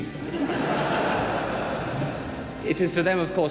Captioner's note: audience laughing